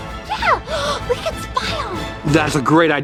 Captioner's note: gasps